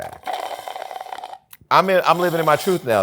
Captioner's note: slurping